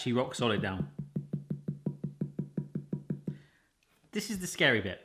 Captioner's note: thumping repeatedly